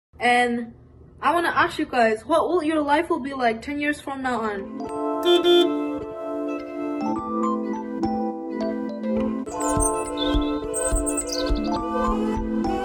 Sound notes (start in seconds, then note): 5.2 car horn honking; 7.4 upbeat music; 9.5 bird chirping